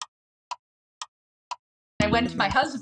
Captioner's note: clock Ticking